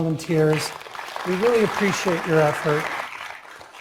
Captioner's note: applause